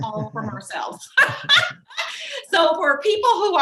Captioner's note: laughs